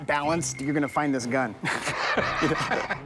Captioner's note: laughs